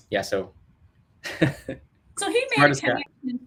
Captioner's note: laughs